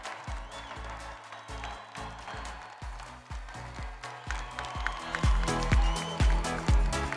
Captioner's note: crowd continues applauding; upbeat music continues